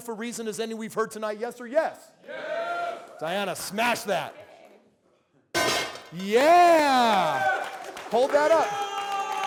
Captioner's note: crowd Cheering Yes